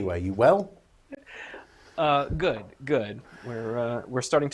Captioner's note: laughs